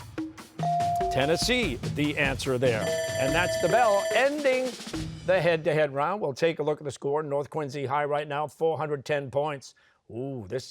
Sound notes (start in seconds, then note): 0.6 bell ringing